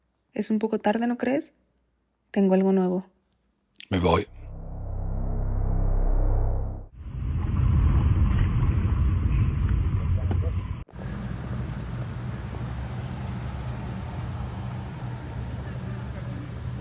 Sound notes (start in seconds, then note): 4.2 suspense atmospheric sound; 7.1 car drives; 11.1 footsteps